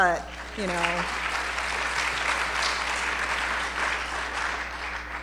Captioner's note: applause